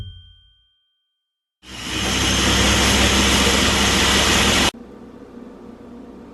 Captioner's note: blender whirring